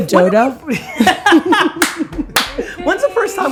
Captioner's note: laughing